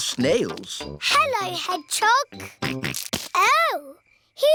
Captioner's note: snorts